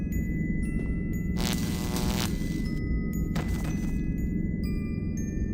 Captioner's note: electricity